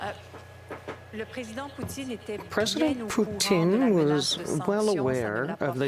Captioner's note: speaking French